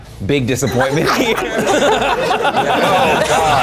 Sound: everybody laughing

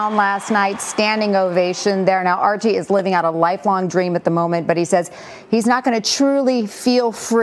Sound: cheers and applause

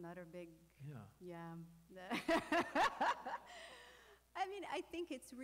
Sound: laughing

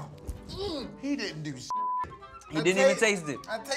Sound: beep

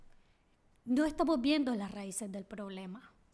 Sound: speaking spanish

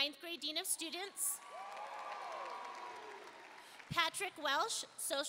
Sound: audience cheering and applauding

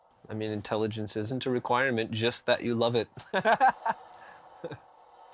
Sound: laughing

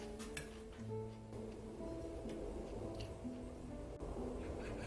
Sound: plane sounds

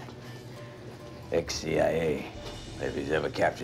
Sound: <i> quietly</i>

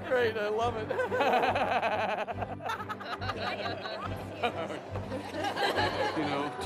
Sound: laughter

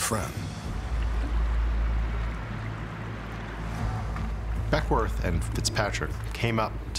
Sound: water streaming

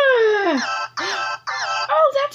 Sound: phone rings

